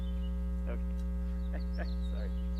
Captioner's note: chuckles